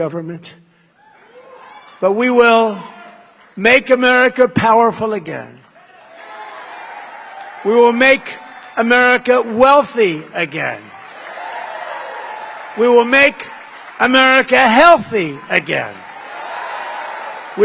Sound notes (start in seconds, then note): 11.8 applause